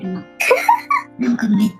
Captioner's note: laughs